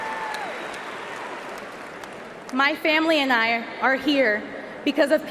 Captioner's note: cheering and applause